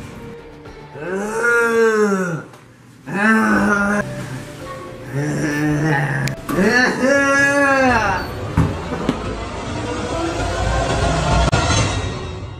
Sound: zombie Noises

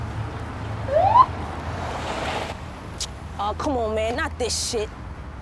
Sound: sirens bleat

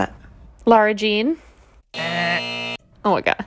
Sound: soundbite of buzzer

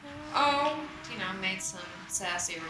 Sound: voiceover

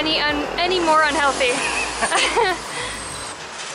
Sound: laughs

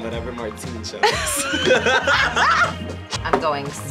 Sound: both laugh

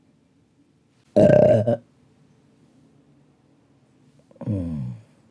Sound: belches loudly

